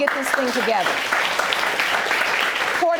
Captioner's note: audience applauding